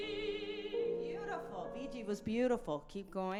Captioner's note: speaking in a foreign language